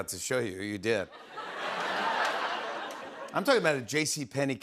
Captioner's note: laughter